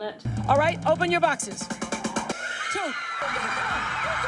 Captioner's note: audience members scream